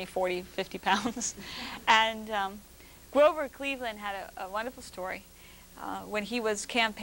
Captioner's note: laughter